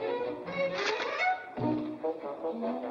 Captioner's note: playful music; paper tears